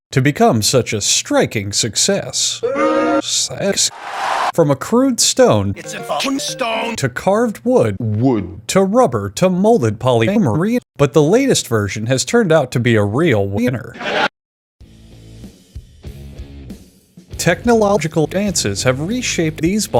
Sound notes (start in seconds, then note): 3.8 crowd cheering; 3.9 crowd booing; 13.9 laugh track